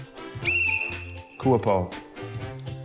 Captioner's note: blows whistle